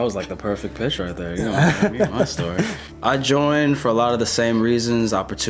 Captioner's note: both laugh